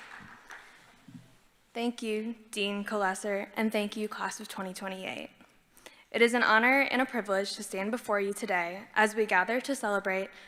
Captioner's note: applause